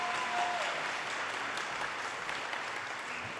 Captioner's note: audience cheers and applause